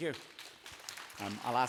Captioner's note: applause